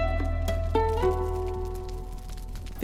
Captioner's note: lively music; crackling fire